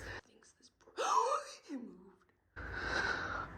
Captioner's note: loudest gasp known to man